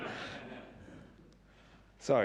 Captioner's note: audience laughs